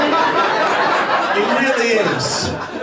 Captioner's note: laughter